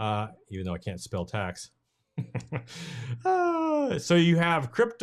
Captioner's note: chuckling